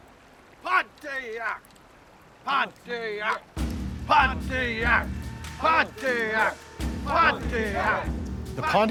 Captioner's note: chants